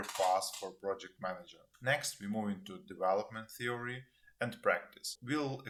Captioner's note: cash register rings